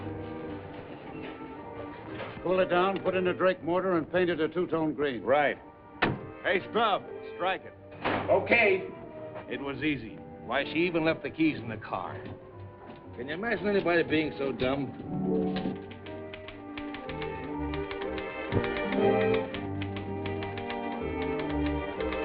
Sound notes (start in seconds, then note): 15.5 teletype clacking; 18.6 dramatic music